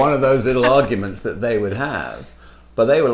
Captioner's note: laughs